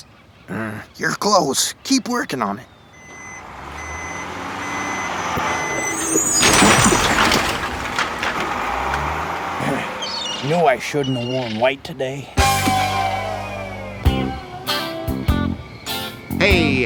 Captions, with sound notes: No, sorry, Nuppets grass. You’re close, keep working on it. (Beeping) I knew I shouldn’t have worn white today.